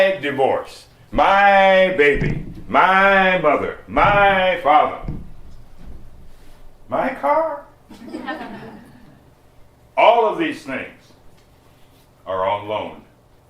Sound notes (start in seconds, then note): 8.0 slight laughter